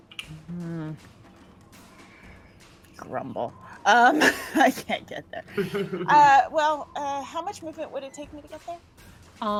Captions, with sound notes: (sighs) Grumble. (laughs) I can't get there. Well, how much movement would it take me to get there?